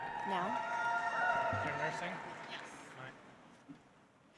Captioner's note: audience applauds